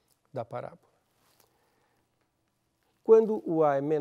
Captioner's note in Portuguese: pausa sonora